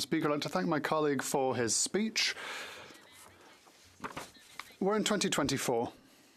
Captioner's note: speaking in French